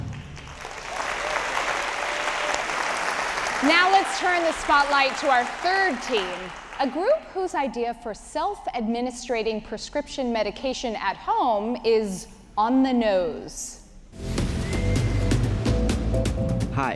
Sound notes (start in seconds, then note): 0.0 audience applauding; 14.2 upbeat music